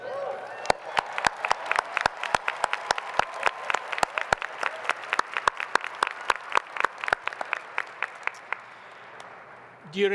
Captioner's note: applause